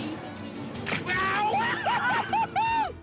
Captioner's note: whooping